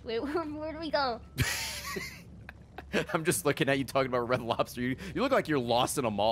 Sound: laughs

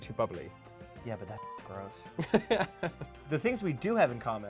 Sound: beep

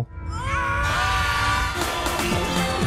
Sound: frightened screaming

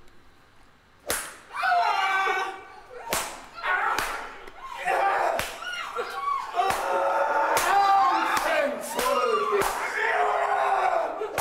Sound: whipping noises and painful screams offscreen

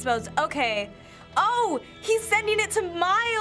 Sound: none

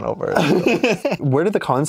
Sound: laughs

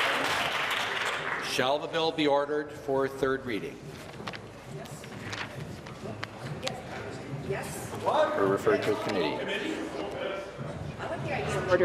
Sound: applause

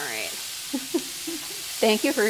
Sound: laughs

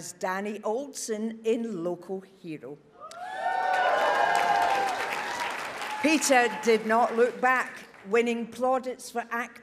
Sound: audience cheers

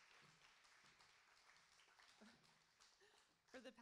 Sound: applauding

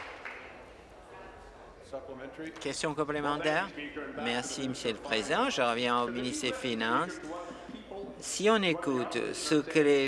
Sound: applause

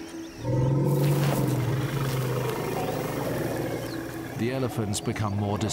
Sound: birds chirp; lions growl; elephant grunts

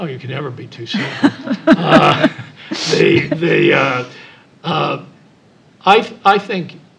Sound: laugh

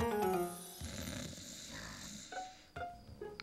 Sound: snoring

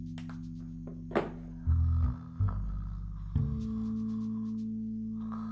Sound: Kim snoring

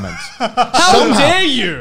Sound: laughing

